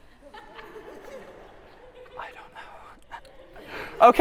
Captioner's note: laughter